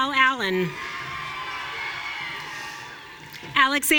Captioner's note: audience cheering